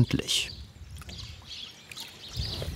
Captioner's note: birds chirping